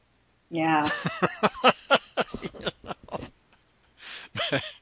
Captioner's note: laughs